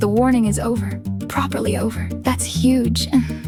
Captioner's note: female voice 1